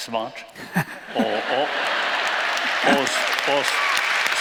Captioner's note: applause